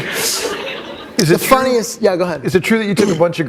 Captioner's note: laughter